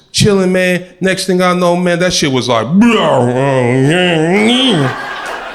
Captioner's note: groans